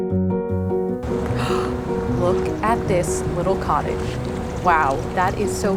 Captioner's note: gasps